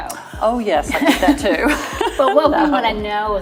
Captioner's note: laughs